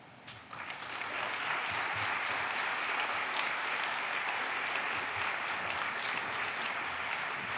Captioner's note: applause